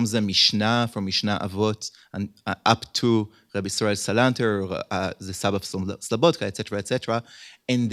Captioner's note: hebrew